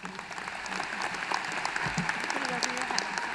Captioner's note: applause